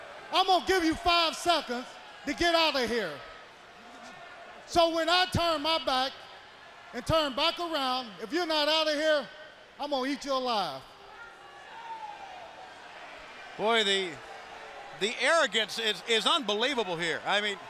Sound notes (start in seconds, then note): 10.8 crowd chatter